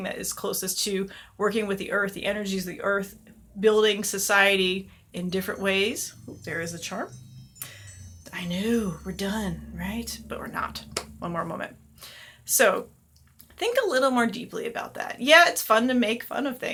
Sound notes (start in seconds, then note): 7.6 chime